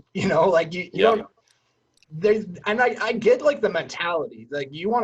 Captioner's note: laughs